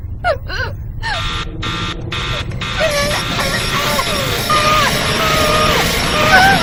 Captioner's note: timer buzzing loudly